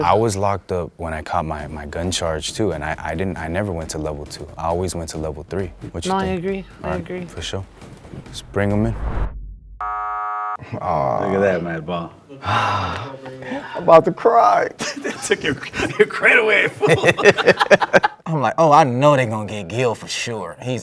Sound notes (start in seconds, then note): 9.8 buzzer buzzes; 12.4 sighs; 14.8 laughs; 17.1 laugh